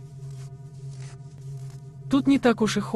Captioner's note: snow crunching